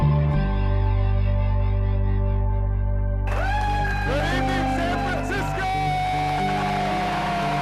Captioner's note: cheering